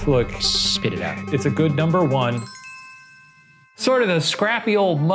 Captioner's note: bell dinging